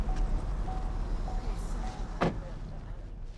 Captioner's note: car door closes